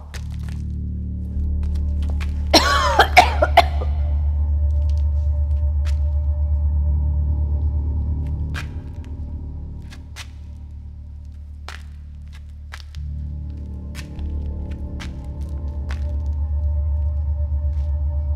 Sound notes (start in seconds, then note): 2.5 coughing; 9.8 footsteps